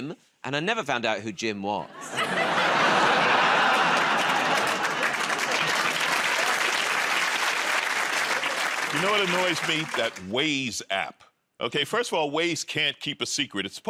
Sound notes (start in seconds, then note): 1.9 laughter; 5.2 cheers and applause